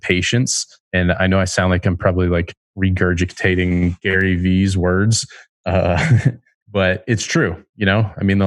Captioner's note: laughs